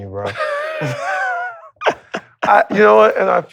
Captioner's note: both laughing